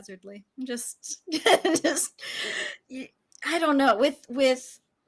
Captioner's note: laughs